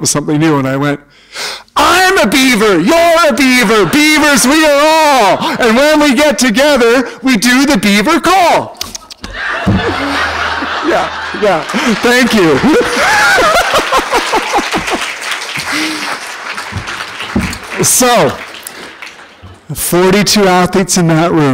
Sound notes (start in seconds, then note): 9.2 laughter; 10.5 applause